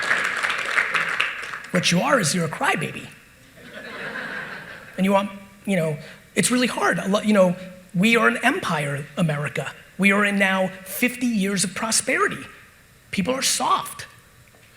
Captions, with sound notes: What you are is you're a crybaby. (audience laughing) It's really hard. We are an empire, America. We are in now 50 years of prosperity. People are soft.